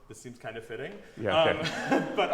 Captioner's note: laughter